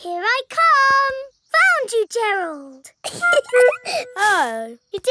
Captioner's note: giggling